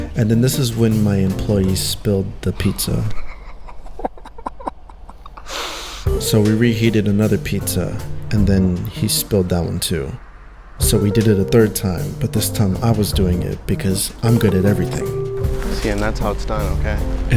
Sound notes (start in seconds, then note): 2.9 laughs